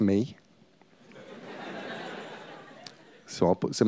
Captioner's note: laughter